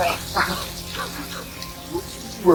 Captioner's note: Luke laughs